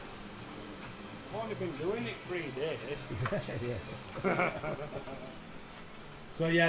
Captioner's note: laughs